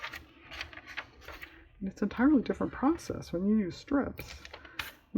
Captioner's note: sarcastically